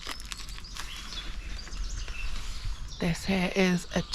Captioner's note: birdsong